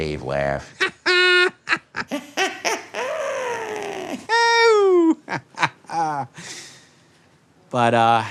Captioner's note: Ralph Masterson & Sam Cooper laugh